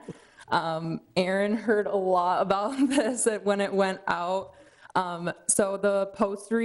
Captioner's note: chuckles